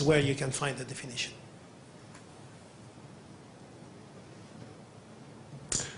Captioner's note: pause